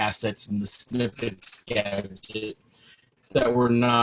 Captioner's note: robotic sounds